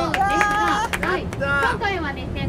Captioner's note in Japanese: 拍手